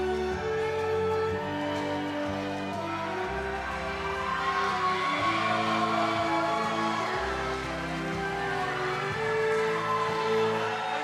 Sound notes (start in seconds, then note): 5.8 cheering; 6.8 applause